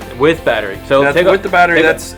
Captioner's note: voiceover